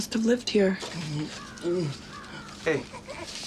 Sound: groaning

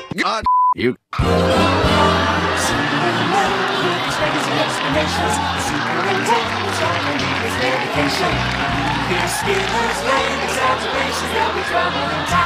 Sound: applause

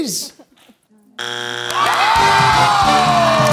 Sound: buzzer sounds

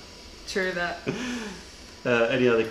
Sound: laughter

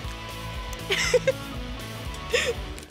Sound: laughing

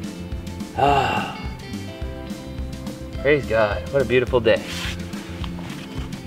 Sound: sighs

